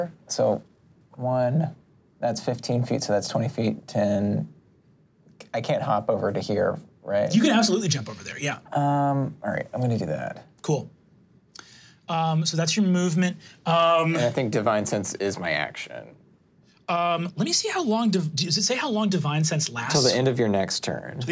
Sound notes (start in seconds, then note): none